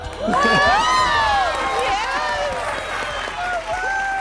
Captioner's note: crowd cheering